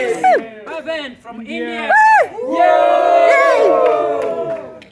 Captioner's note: cheering; cheering